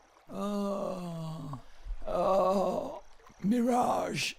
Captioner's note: groans